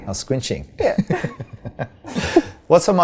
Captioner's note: both laughing